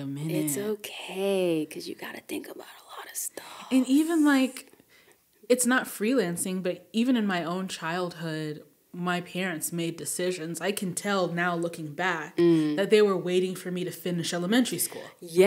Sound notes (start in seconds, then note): none